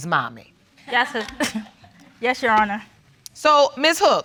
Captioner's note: laughs